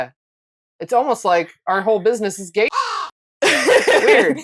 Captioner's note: caw